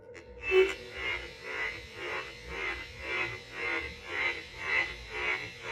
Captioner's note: radio noise